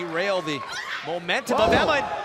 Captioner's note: crowd cheering